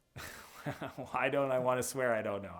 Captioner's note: laughs